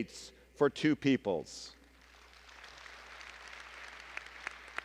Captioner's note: applause